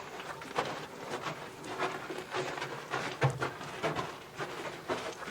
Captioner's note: gravel crunching